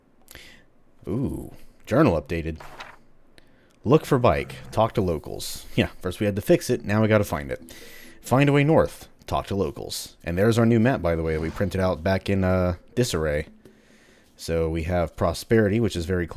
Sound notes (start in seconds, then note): 2.5 journal opens